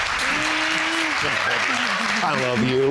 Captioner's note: audience applauding